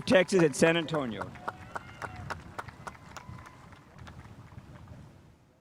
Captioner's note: spectators applauding